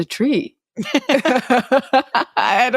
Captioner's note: both laughing